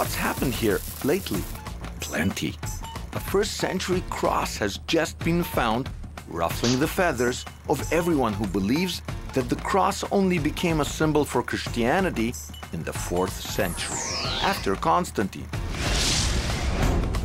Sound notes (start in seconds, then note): 0.0 crinkling sound; 13.6 laser-like sound; 15.8 animated zooming sound